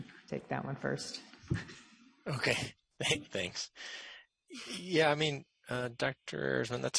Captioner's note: laughs